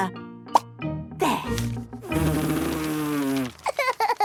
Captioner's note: blows